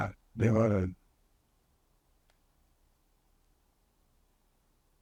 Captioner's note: pauses 13 seconds